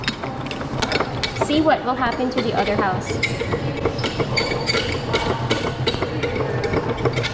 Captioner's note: cranking the wheel